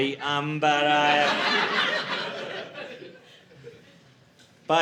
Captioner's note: audience laughing